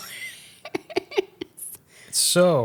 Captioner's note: laughs